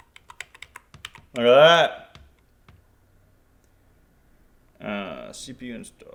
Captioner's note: keyboard keys clicking